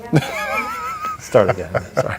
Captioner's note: laugh